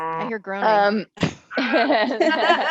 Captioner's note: groans